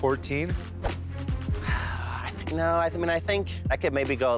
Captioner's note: sighs